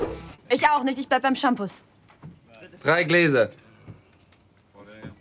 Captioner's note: characters speaking German